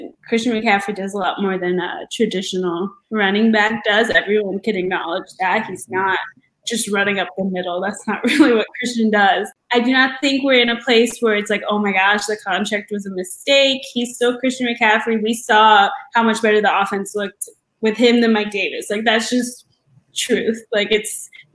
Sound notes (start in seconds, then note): 8.2 laugh